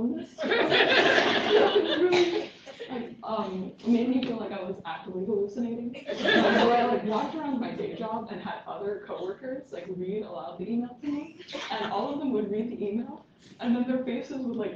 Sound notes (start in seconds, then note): 6.0 laughter